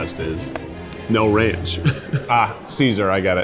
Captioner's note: chuckles